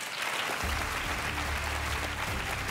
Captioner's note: applause